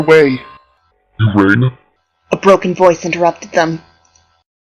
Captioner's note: broken Robot voice